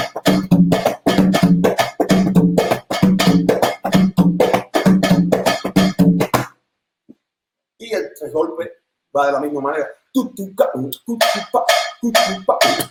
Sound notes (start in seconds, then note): 10.1 Tararea